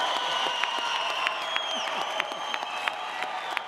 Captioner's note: audience cheers